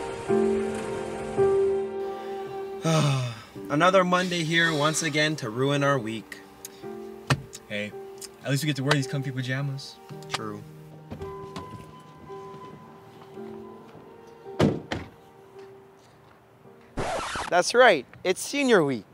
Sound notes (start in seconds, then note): 2.8 sighs; 11.0 car door alert rings; 14.5 sound of car door closing; 16.9 record scratch